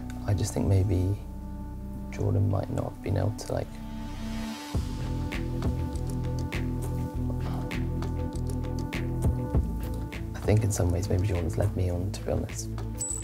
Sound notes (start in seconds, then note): 7.3 sighs